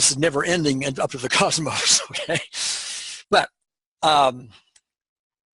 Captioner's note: laughing